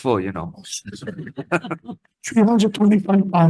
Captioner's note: laughter